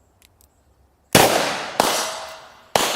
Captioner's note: gun shooting